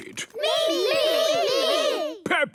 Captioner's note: calling out in turn